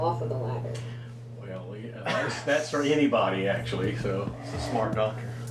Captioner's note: chuckles